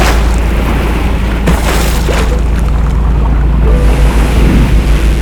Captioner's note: ship horn sounds